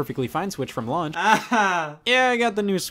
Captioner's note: forced laughing